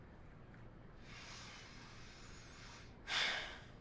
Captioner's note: breathes deeply